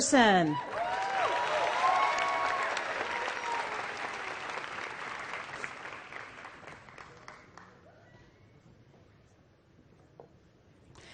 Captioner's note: applause